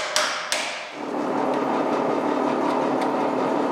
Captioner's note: dull whirring